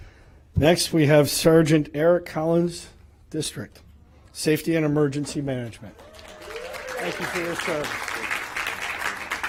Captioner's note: applause